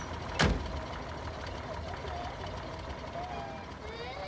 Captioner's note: crying